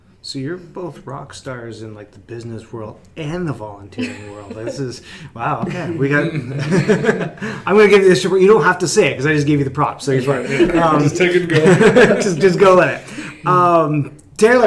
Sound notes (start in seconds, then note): 4.0 laughing; 10.1 laughs